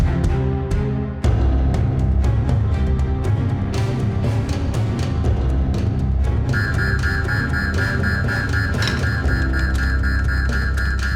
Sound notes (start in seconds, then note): 0.3 dramatic music; 6.5 alarm blaring